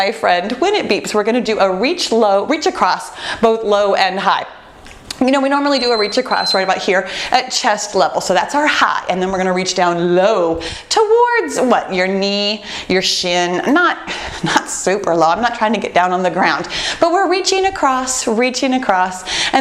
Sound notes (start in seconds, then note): 5.6 beeping